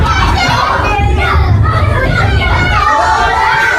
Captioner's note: children's joyful cheers